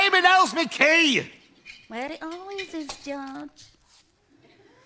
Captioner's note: under her breath